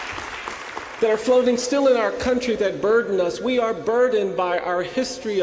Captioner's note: applause